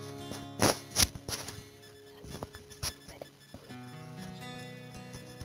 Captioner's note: fighting with the microphone